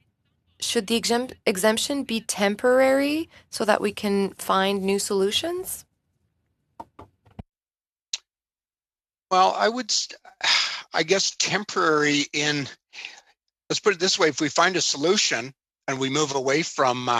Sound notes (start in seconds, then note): 3.3 speaking in French